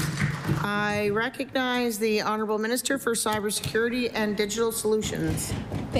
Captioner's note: applause